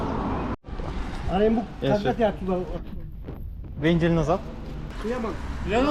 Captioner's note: small talk